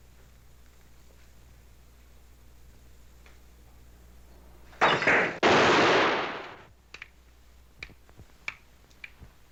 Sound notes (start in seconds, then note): 4.8 gunshot